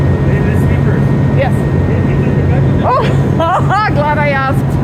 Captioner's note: laughter